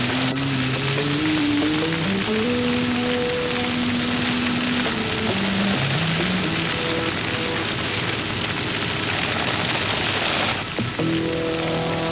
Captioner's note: sound of fires